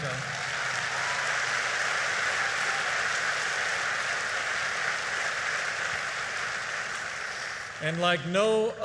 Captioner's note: applause